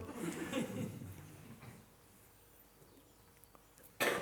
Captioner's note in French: Rires